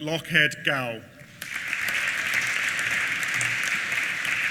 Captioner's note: applause